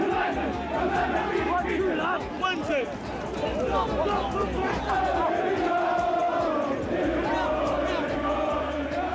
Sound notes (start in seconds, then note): 1.6 police yelling; 5.0 crowd singing